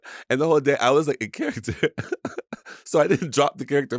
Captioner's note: laughs